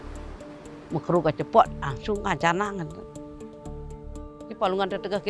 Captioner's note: speaking foreign language